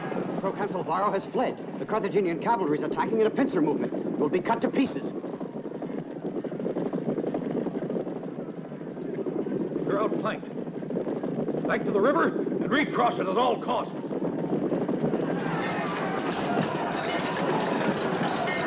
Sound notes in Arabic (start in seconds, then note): 6.1 حوافر تدق; 15.2 اصوات المعركة